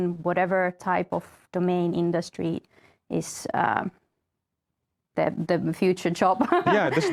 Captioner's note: laughs